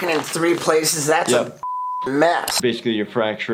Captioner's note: beep